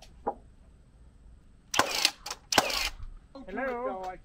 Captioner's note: nail gun firing